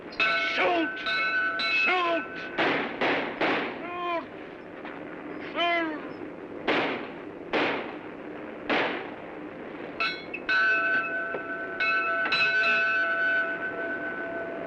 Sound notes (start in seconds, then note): 0.1 bell rings; 2.5 gun fires; 7.5 gun fires; 10.0 bell rings; 14.4 aircraft rumbling